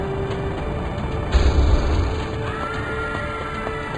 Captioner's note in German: Grollende Geräusche, panisches Stimmengewirr